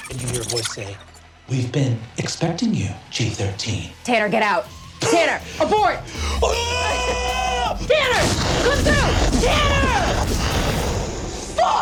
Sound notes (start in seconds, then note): 6.4 screams; 10.3 huge explosion